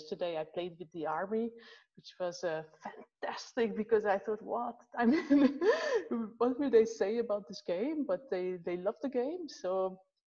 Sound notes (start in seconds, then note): 4.8 laughs